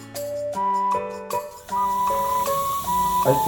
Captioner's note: suction sound